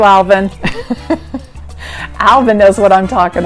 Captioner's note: laughs